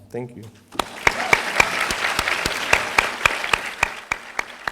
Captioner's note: audience applauding